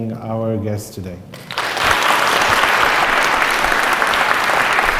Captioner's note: audience claps